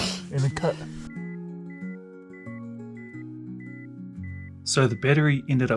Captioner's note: beeping